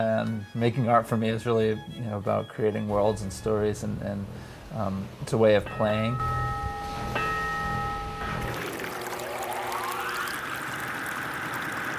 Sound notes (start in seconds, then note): 7.9 dinging